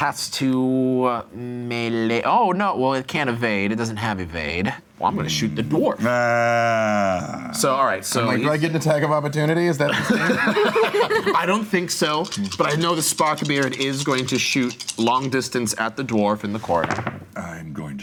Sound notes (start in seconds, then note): 6.0 groaning; 9.8 group laughing